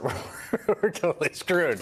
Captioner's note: laughter